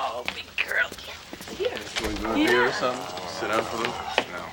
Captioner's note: Michael chattering